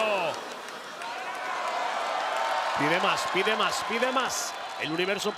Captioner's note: applause